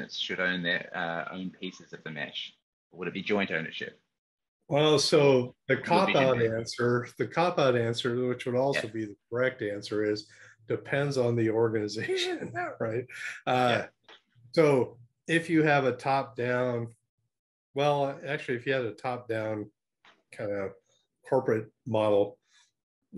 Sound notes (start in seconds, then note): 12.7 laughing